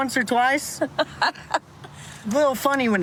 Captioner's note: laughs